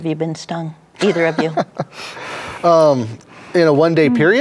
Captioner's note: laughs